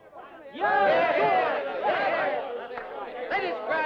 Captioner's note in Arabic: ثرثرة متحمسة